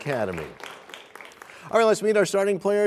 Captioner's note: applause